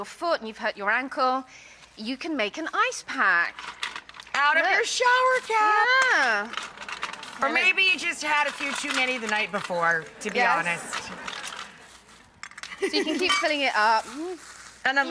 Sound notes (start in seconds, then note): 12.6 laughs